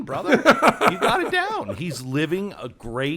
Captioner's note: Penn laughing